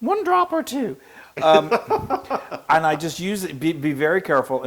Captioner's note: laugh